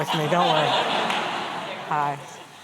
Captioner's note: laughter